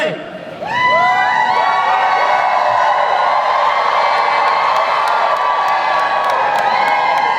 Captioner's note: audience cheers